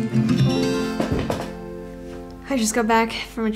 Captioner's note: bag thuds